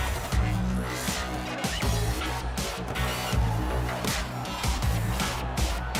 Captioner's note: crowd chattering